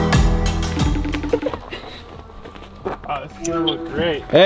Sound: cellphone rings

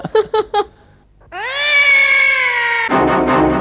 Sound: laughs; cat yowling

